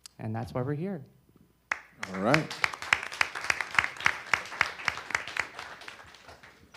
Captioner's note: audience applause